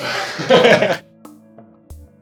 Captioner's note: laugh